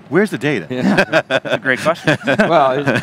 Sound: laughs

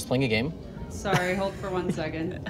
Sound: plane whooshing

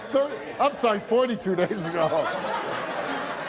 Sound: audience laughs; laughs

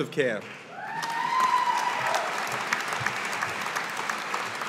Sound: audience applauding

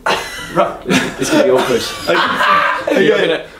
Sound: laughs

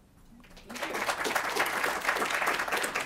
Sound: applause

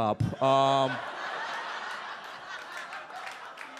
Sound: audience laughs

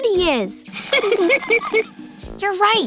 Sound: laughing

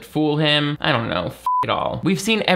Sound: beep

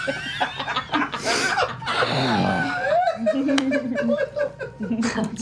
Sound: laughter

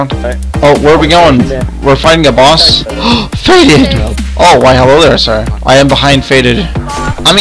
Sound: gasp

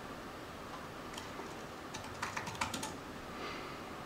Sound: keyboard Sounds

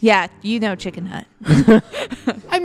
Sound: laughter

